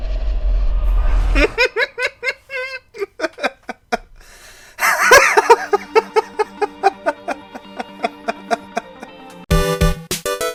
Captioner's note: laughter